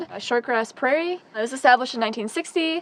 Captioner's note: none